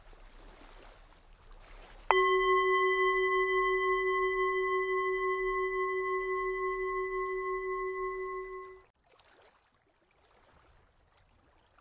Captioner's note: chime